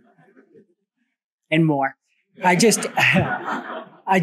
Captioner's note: laughter